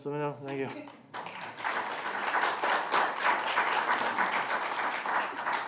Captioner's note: students applauding